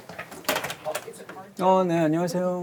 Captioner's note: clacking